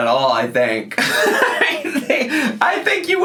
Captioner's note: laughing